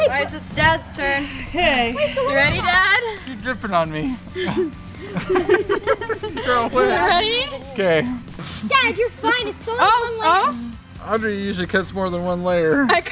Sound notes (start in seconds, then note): 4.1 laughing